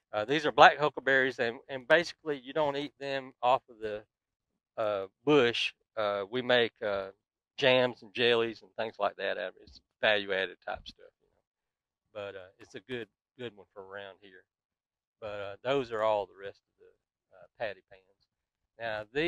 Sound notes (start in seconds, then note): 9.2 speaks faintly